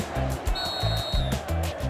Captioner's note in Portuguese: torcida cantando; apito; música animada